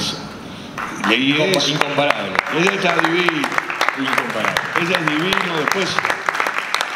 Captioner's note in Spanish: El público aplaude